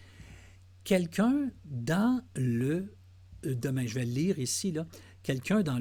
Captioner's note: translating in French